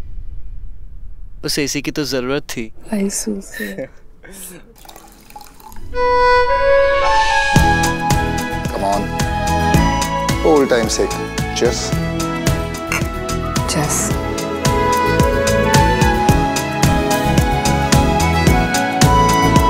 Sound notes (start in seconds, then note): 12.9 glass tinkling